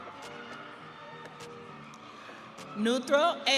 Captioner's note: audience cheering